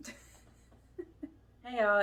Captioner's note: chuckles